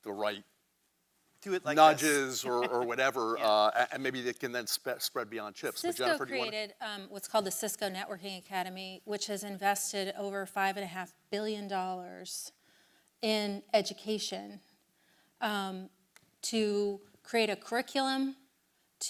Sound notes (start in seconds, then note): 1.9 chuckles